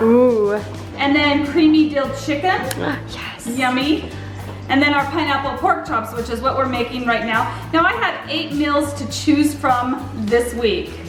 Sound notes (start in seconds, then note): 2.7 sighing